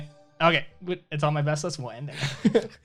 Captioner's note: laughs